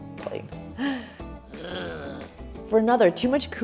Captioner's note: Krusty groans